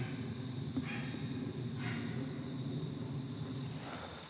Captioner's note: dog barking